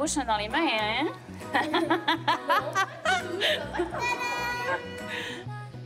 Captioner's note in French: rires